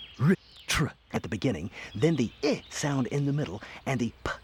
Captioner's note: makes short "i" sound